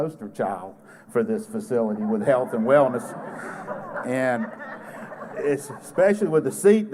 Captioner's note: laughter